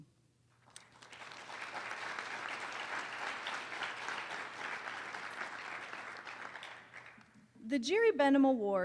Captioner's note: applause